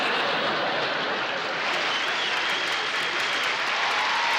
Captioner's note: laughter; cheering